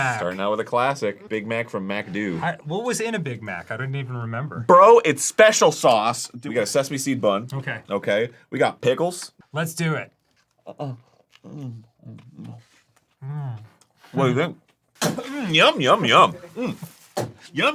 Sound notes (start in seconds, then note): 15.0 spits